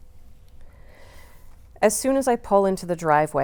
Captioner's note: none